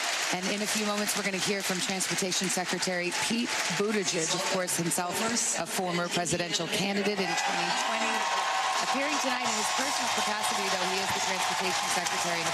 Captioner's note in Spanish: Aplausos